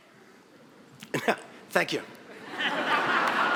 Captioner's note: audience laughing; laughing